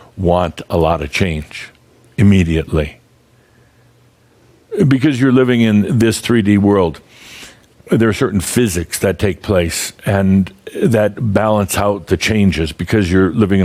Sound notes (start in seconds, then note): none